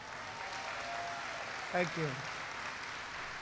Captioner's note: applause